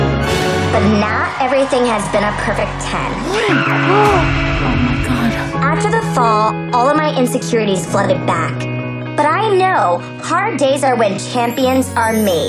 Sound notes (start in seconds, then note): 2.9 screams; 3.2 gasps